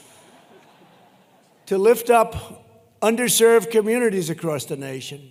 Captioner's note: laughter